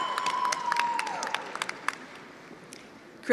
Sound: attendees applauding

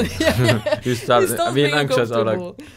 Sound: laughing loudly

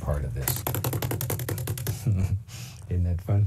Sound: beating

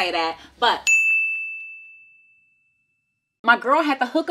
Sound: bell dinging

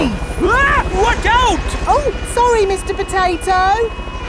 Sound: screams

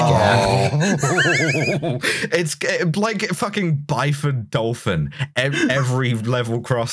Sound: we all groan in horror

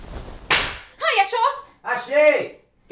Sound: slam!

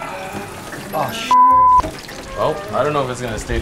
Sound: beep

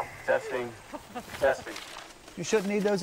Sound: with radio echo

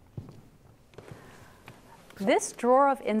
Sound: footsteps

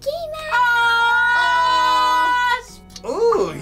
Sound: mommy yells

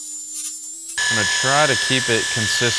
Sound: machine buzzing

